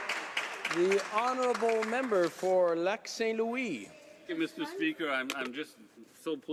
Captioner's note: applause